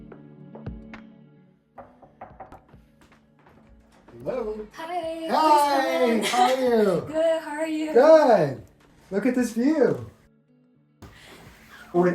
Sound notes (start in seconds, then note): 1.8 door knocking; 10.6 relaxing music